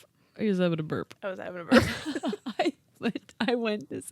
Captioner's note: both laugh